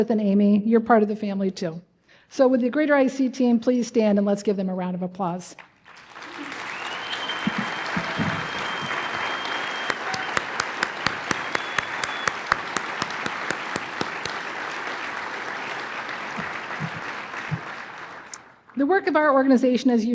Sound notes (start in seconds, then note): 5.5 applause